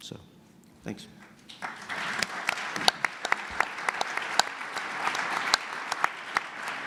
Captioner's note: audience applause